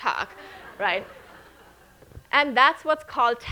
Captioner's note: audience laughing